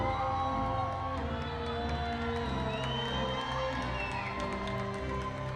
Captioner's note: audience continues cheering